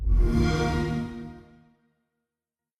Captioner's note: xbox sound